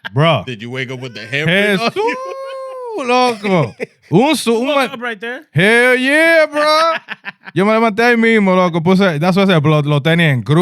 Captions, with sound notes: Bro. (Speaking In Foreign Language) What's up right there? Hell yeah, bro. (Laughing) (Speaking In Foreign Language)